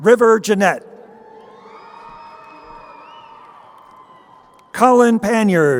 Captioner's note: crowd cheering